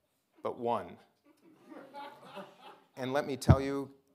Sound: audience laughing

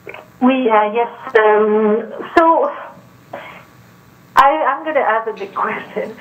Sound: speaking French

